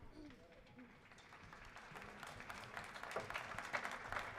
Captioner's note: audience clapping